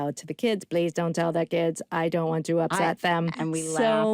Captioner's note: in robotic voice